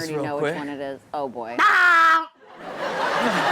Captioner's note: screams; audience and Chanel laughs